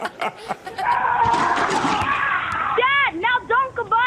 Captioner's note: people shouting